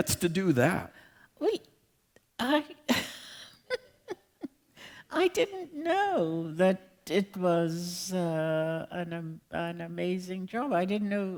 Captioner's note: laughter